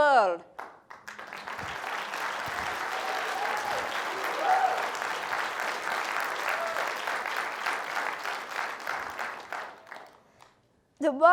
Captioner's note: applause